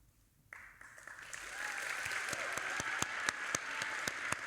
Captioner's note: audience applauding